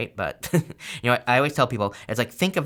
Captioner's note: laughs